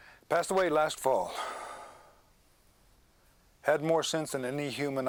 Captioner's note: sighs